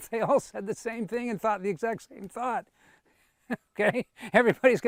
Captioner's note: giggles